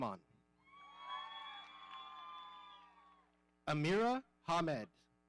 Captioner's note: audience cheering